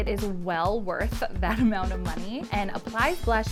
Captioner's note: chuckles